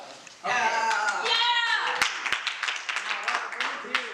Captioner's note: applause